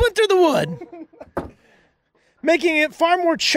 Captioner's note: person laughing